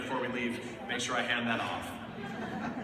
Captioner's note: laughter